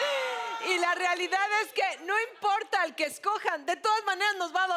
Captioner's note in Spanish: Exclamaciones